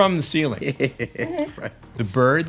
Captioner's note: laughing